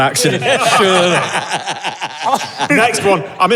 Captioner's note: others laughing